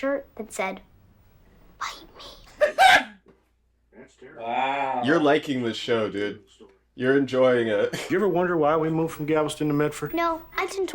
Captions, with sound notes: [laughs] You're liking this show, dude. You're enjoying it.